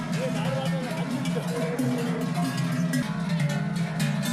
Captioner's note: the bell sound is too loud